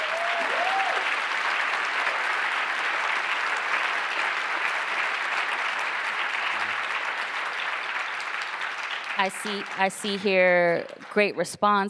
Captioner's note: applause